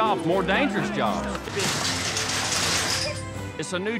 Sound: clattering sounds

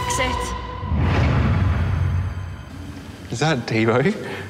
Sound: air whooshes

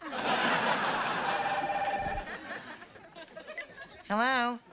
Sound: telephone ringing

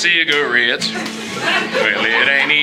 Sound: audience Laughing

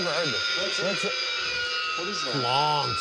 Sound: high-pitched grinding

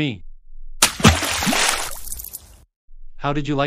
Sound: splash

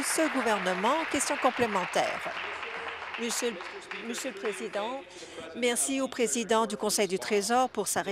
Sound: applause

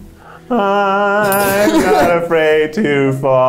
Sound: laughs; bell rings

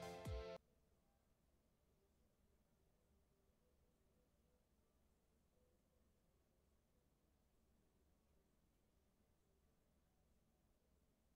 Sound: music stops

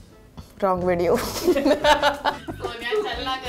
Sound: both laugh

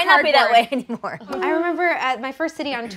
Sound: laughing

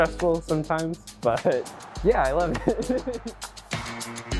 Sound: laughs

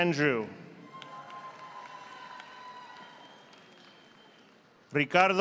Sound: audience applauding

